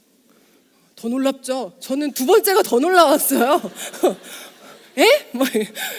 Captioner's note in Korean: 웃음